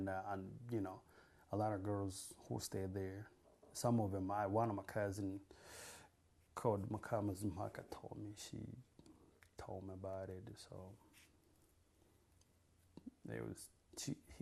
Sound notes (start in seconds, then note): 6.7 non-english